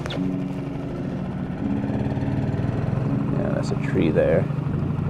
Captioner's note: engine buzzing